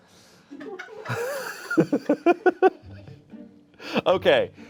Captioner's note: everyone laughs